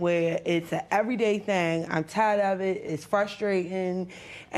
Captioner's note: none